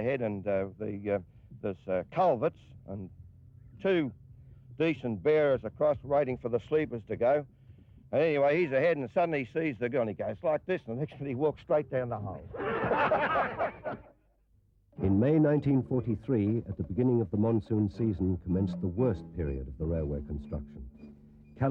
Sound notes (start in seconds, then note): 12.5 all laugh